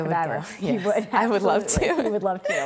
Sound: laughs

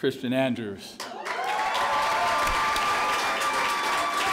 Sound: clapping

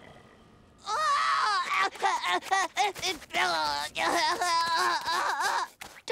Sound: groaning

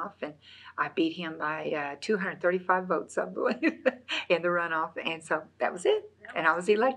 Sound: laughs

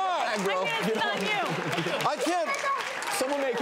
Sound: audience applause

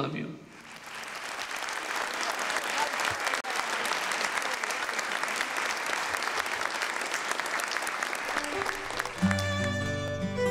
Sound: applause

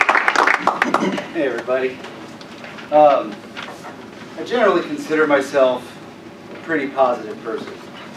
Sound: applause; cough

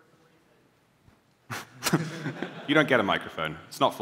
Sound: laughter

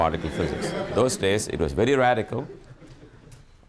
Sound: students laugh

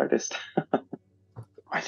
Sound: laughing

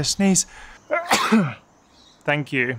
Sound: sneezing

